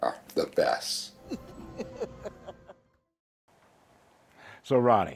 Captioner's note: laughs